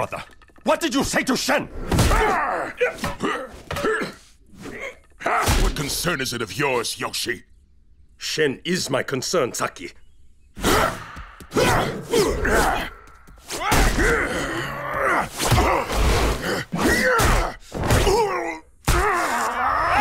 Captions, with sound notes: What did you say to Shen? [grunting] What concern is it of yours, Yoshi? Shen is my concern, Saki. [grunting] [grunting]